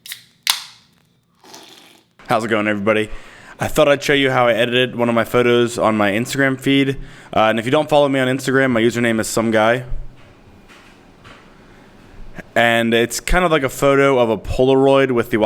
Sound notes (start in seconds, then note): 1.3 pop-top crunches; 1.3 slurps